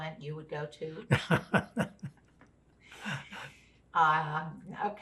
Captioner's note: laughing